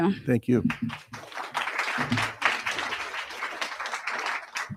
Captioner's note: crowd applauding